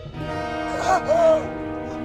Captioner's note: gasps